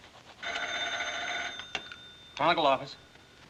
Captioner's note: phone rings